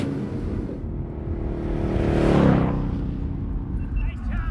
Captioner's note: motorcycle passing